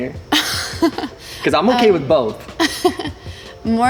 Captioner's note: chuckles